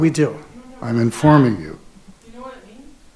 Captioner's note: group chattering